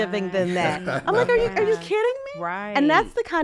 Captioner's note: chuckles